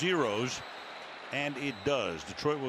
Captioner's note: whistle